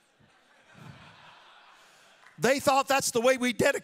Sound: audience laughing

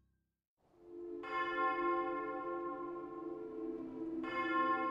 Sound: church bells ringing

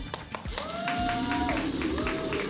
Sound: coins jingling; applause

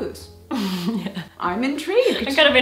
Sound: laughs

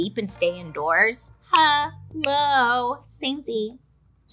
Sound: clicking fingers

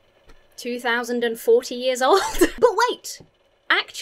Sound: chuckles

